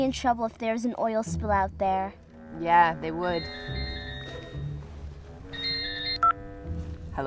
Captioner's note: telephone ring